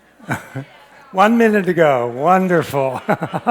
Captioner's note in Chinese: 輕笑